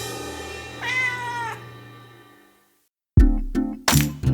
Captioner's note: cat meows; mellow music